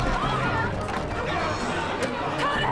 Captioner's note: loud chattering